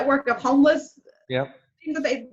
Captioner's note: murmurs